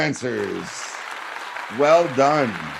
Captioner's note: applause